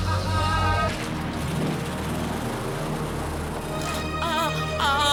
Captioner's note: crowd laughing; car engine revving; suspenseful music; woman moaning